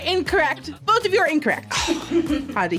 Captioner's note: sighs